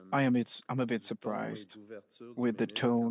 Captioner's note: speaking French